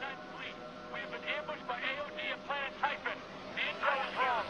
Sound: radio

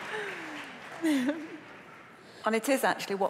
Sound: applause

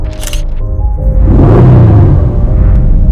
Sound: chain clinking; engine revving

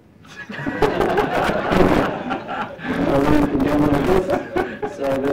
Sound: audience laughter

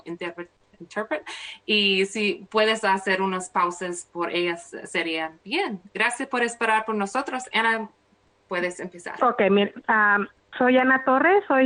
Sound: speaking spanish

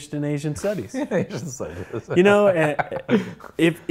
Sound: laughs

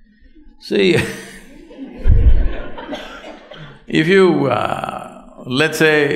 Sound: laughter

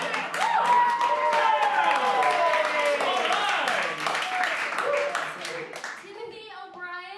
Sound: applause

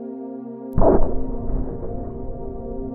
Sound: boom

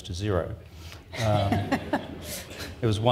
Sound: laughs

